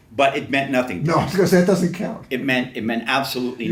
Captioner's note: laughs